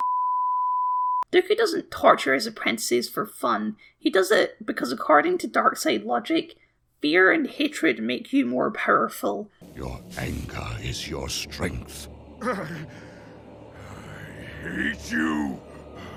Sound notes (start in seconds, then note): 11.9 heavy breathing